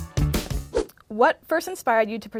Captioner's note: whoosh